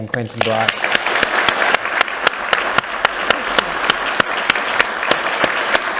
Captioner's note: and audience applauding